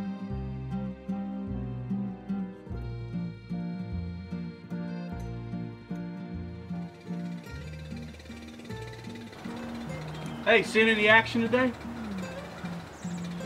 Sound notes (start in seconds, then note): 6.6 motor running